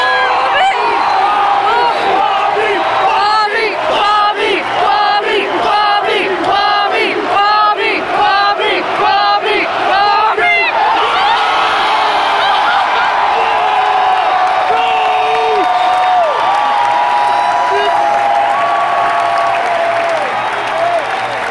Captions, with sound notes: *crowd chants "Bobby, Bobby, Bobby"* * louder cheers* *crying and cheering* *applause*